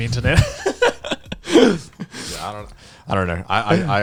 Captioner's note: hosts laughing